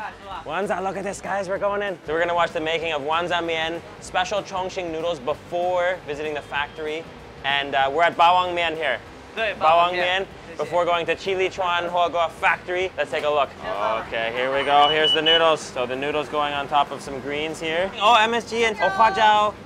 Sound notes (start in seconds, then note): 14.6 alarm rings